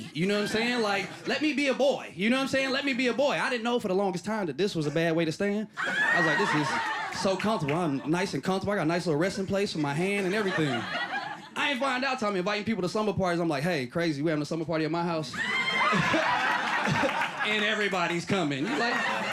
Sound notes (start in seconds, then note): 15.4 laughing